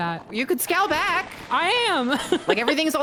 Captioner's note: laughs